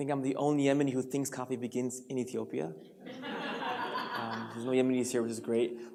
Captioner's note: audience laughs